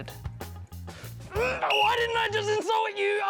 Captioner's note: blows whistle